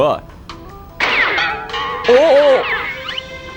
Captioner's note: clink-bang-boom